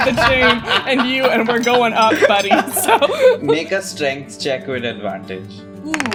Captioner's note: laughter